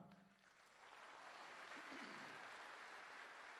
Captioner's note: applause